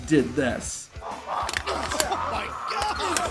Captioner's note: wrestler squealing; Mark Henry grunting